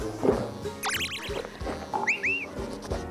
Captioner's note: sips